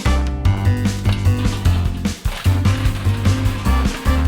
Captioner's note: barrel rattling